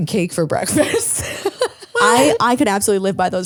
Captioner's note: laughs